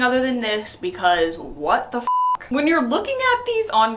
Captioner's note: beep